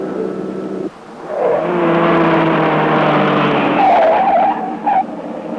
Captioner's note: tires squealing